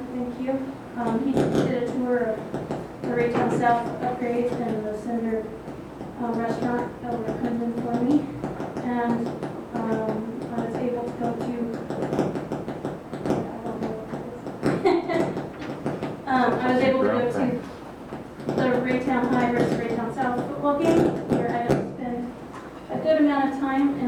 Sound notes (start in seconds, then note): 14.8 laughs